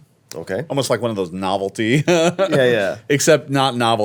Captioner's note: laughs